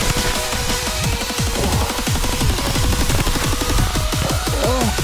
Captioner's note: sighing